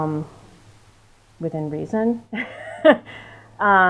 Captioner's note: chuckles